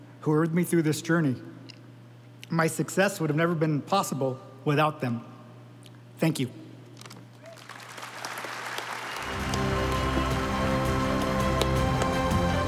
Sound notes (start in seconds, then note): 7.4 audience applauding; 9.1 stately music